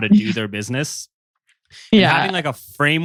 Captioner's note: laughs